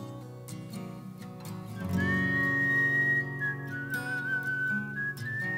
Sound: whistling

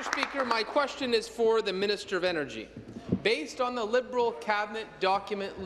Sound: applause

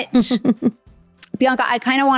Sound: giggling

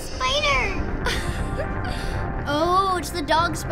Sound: giggling

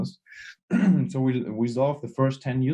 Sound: clears throat

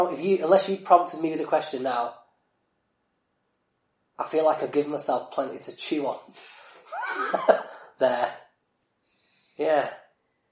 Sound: laughs

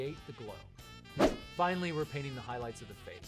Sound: swoosh

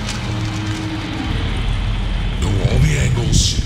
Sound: sound of a car

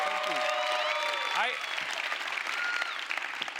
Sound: cheers and applause

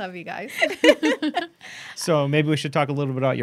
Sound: laughing

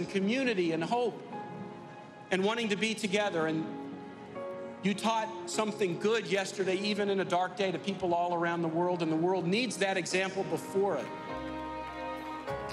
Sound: cheers & applause

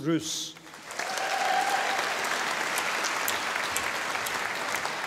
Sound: audience applauding

